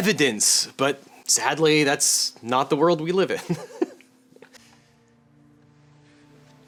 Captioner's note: laughs